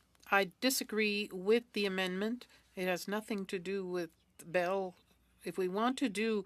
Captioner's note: speaking French